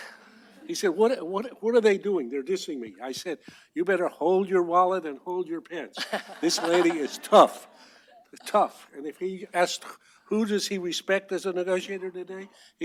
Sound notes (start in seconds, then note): 5.9 laughter